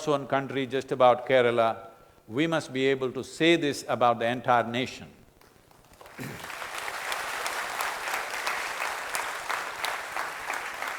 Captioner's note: applause